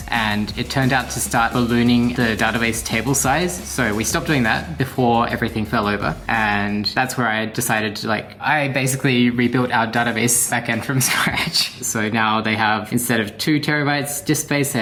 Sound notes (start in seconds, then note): 11.3 chortles